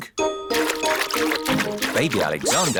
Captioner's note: splashing